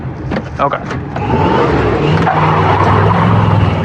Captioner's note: tiresqueal